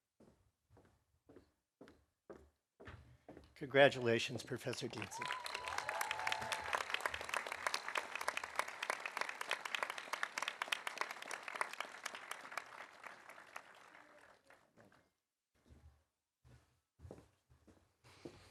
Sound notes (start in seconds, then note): 4.4 audience applauding; 4.6 audience cheering